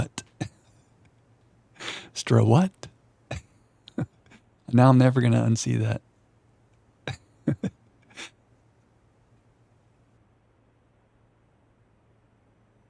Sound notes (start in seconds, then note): 0.0 laughs; 7.4 laughs